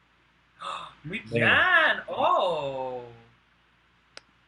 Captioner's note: gasp